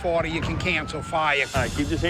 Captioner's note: distant siren blaring